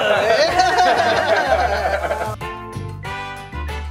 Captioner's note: laughter